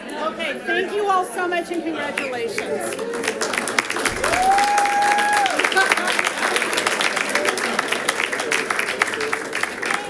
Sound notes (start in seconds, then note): 2.1 audience applauding